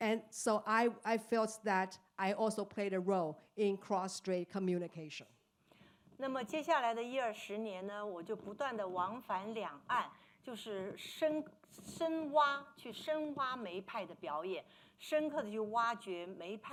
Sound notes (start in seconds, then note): 5.9 speaking Mandarin